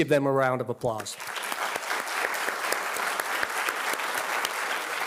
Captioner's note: audience applauding